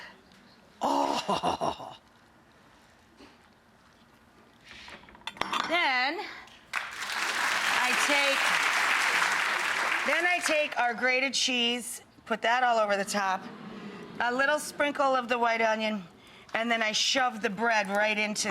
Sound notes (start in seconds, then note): 6.6 audience clapping